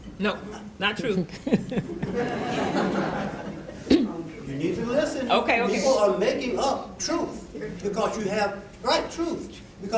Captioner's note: laughter